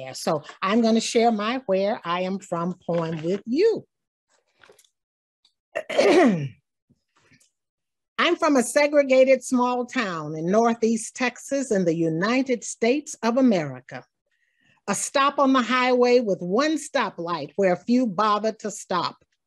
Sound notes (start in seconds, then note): 5.8 clears throat